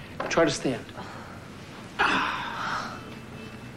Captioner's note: both sighing